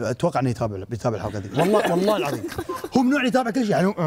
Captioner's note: all laughing